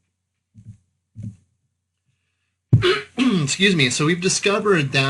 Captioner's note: clearing throat